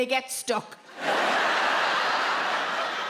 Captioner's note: audience laughs